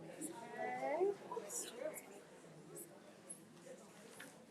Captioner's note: crowd chattering